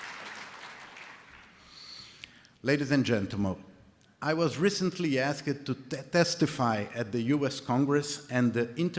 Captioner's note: applause